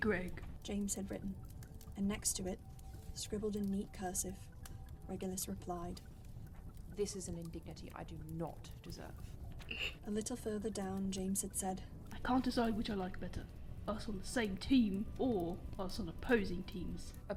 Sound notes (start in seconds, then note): 8.6 James snorts